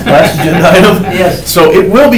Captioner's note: attendees laugh